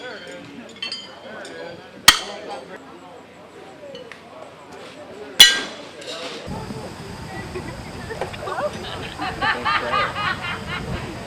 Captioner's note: kid chuckles